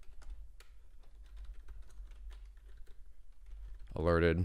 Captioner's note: keyboard clicking